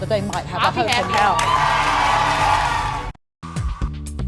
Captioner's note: audience cheers and applauds